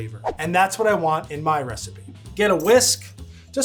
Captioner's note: air whooshing